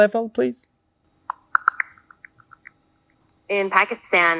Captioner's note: computer audible beep